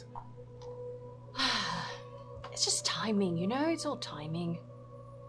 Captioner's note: sighs